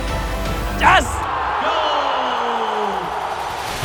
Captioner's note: audience cheers